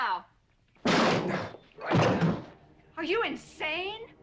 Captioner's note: slams door open